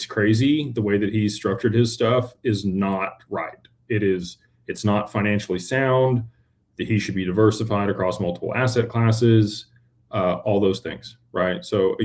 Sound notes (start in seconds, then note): none